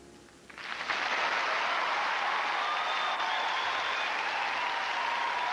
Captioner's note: applause